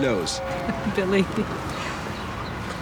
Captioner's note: laughs